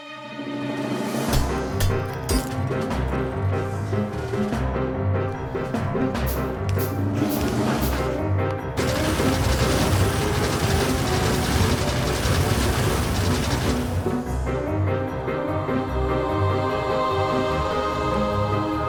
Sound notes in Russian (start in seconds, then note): 1.2 играет бодрая, деловитая музыка; 8.7 стрельба турелей; 8.8 играет бодрая, деловитая музыка